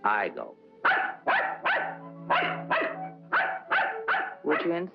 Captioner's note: dog barking